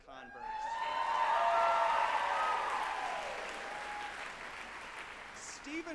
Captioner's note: group applauding and cheering